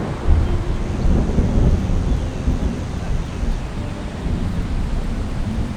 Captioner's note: thunder Rumbling